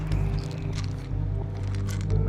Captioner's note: pills rattling